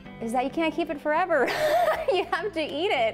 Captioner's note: laughing